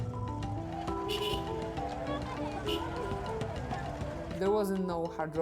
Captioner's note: honking; people chattering